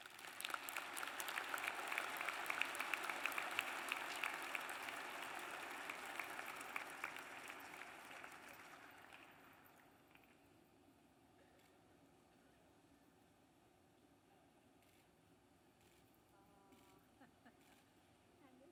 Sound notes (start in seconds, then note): 11.5 applause